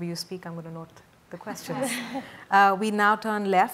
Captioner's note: ladies laugh